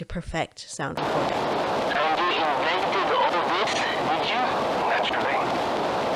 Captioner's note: grainy cylinder recording